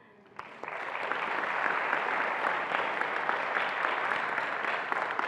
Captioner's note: attendees applauding